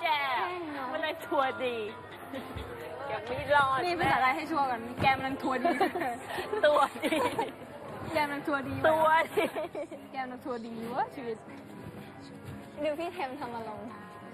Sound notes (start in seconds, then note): 8.2 laugh